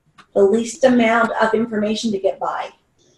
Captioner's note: phone rings